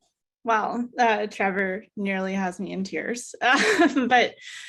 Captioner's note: chuckles